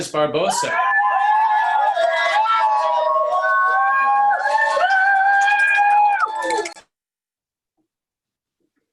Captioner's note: applause